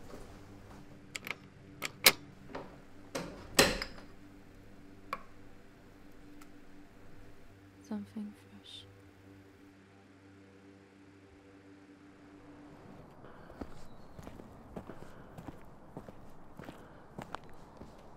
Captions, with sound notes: [front door unlocks and shuts] Something fresh [ventilated breathing]